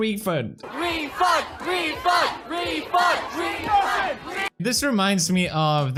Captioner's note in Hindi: "धनवापसी" चिल्लाते हुए लोगों का एक समूह